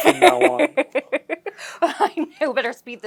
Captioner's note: laugher